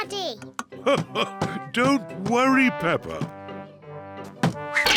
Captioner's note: laughs